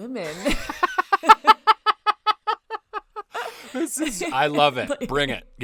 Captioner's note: laughing loudly